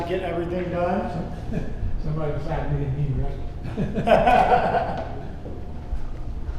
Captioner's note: laughing